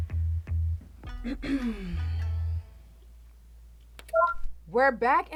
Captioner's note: Terra clears throat; sound board beeps